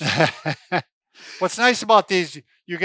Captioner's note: laughs